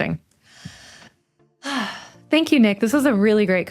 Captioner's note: sighs